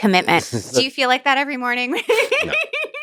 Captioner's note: laughs